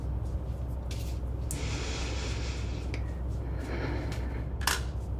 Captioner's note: mother breathing deeply